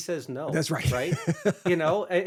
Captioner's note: laughs